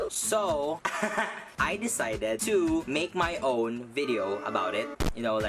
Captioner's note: nervous laughter; boo!!